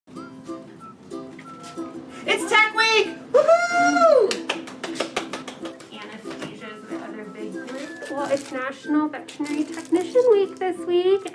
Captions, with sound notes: (upbeat music) - It's Tech Week, woo-hoo! (claps) - Anesthesia's the other big group. Well, it's National Veterinary Technician Week this week.